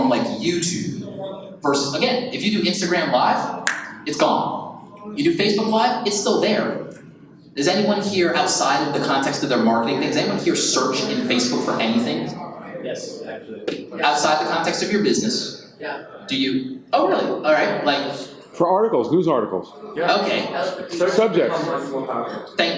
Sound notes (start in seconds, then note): 3.6 snaps fingers